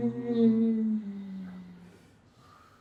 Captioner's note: moaning